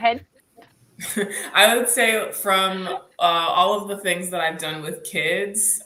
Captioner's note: laughs